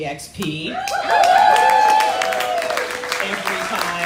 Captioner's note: crowd cheering